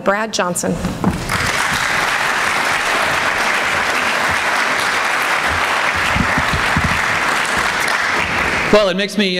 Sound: applause

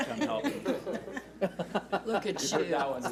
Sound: laughs

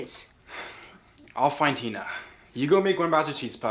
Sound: sighs

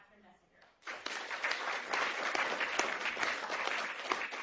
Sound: applause

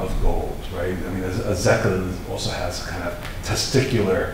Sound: foreign language

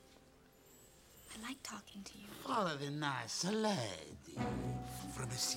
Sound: Nathaniel with accent

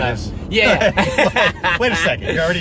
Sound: laughs

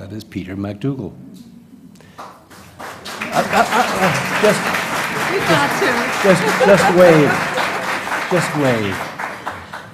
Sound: applause

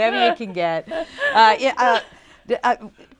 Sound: laughing

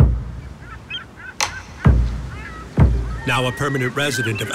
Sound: seagulls squawking

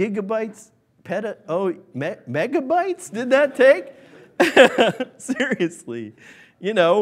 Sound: laughs

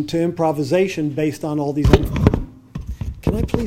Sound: mic falling

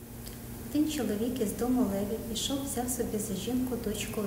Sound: speaking Ukrainian

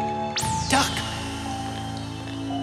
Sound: eerie music; laser firing; spider whistling

